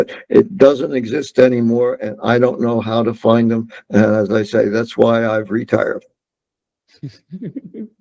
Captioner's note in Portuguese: risos